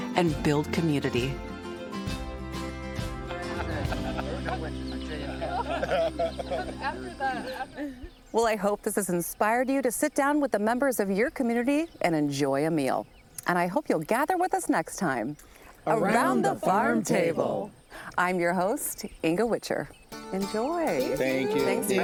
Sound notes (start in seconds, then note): 3.2 people chatting and laughing